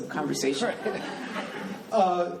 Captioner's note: laughing